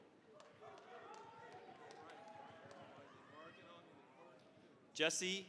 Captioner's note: cheering, applause